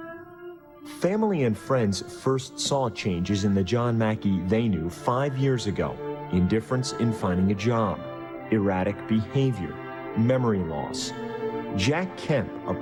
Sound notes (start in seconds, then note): 1.8 voiceover